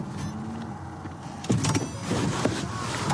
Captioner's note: car door opens